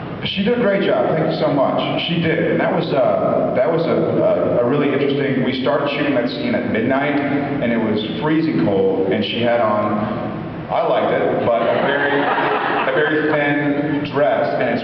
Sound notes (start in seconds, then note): 11.4 laughs